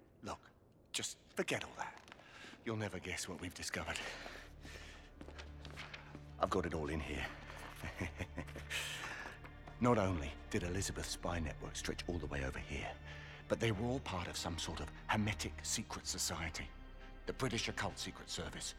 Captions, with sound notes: Look, just.. forget all that. You’ll never guess what we’ve discovered. I’ve got it all in here. (laughs) Not only.. did Elizabeth’s spy network stretch all the way over here... ...but they were all part of some sort of.. Hermetic secret society. The British Occult Secret Service...